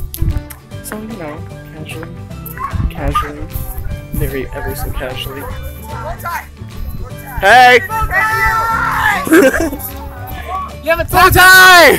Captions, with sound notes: So you know casually, casually...very ever so casually [shouts from distance] Hey! [even more screaming] BOWTIE!!!